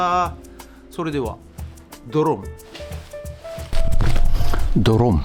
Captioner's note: poof